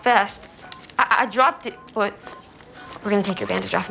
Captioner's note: monitor beeping